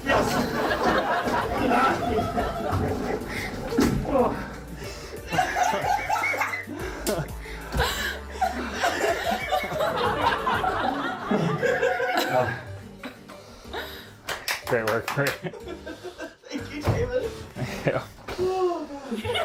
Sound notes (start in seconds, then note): 0.0 audience laughter; 5.3 laughs; 10.4 sighs; 19.1 audience laughter